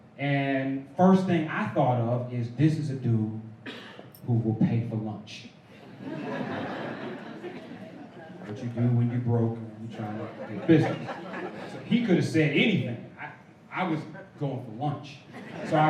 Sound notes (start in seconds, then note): 5.7 laughter